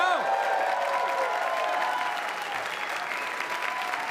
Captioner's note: applause